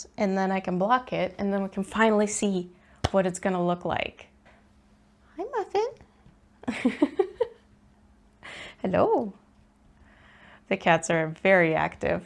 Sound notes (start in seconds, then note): 3.0 clap; 6.6 giggles